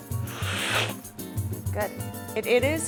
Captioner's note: slurping